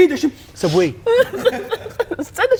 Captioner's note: laughing